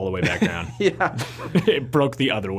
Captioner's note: laughs